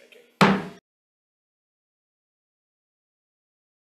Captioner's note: gavel taps